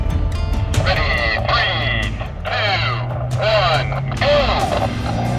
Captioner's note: man, through walkie-talkie